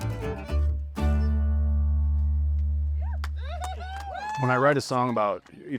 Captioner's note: music ends, clapping